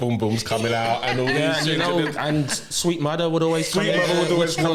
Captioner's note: laughter